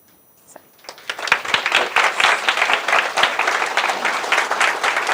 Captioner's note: applause